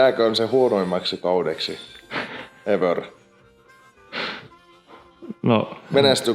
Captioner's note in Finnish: naurahtaa